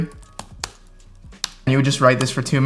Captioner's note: keyboard button clicking